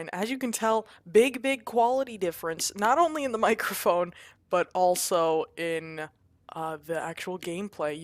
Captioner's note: none